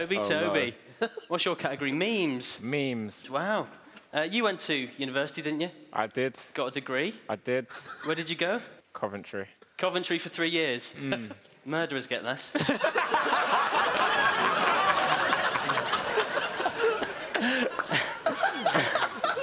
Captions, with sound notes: - Tobi, Tobi. What's your category? - Memes. - Memes, wow. You went to university, didn't you? - I did. - Got a degree. - I did. - Where did you go? - Coventry. - Coventry for three years. - Murderers get less. (laughing)